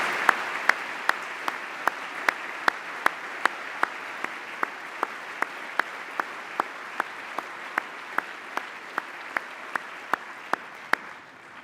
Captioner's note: applause